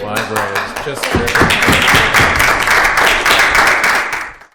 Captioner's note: applause